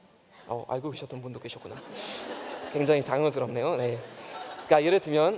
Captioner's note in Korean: 웃음